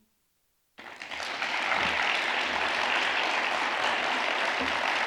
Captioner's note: audience applauds